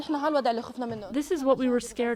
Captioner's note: through translator